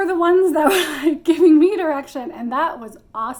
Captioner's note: chuckles